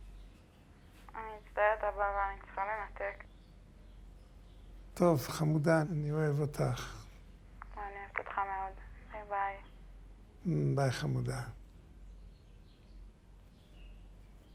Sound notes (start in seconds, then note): 1.4 speaking foreign language